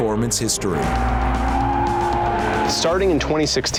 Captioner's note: car breaks squeal